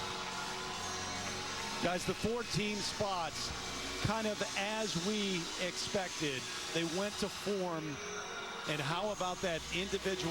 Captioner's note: cheers and applause